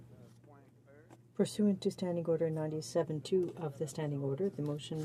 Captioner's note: speaking french